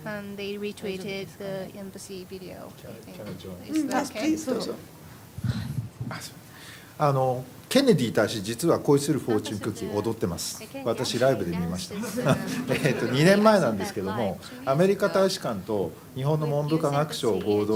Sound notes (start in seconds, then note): 7.7 speaking japanese